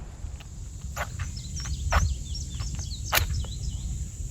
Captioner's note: match striking